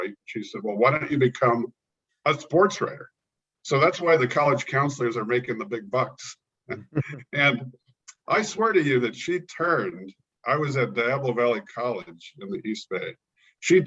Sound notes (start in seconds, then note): 6.7 both laugh